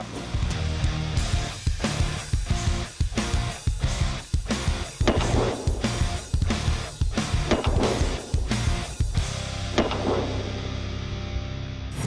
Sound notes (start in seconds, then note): 0.2 heavy metal music; 5.0 gun fires